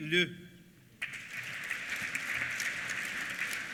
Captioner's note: applause